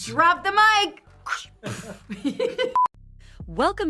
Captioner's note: laughs